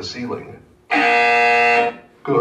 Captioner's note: loud BZZZZZZ